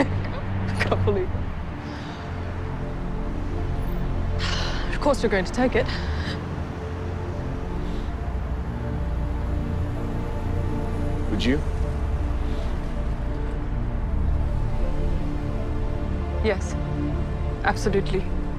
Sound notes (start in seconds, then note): 0.0 laughs; 4.4 sighs